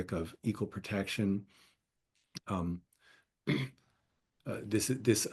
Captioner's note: cough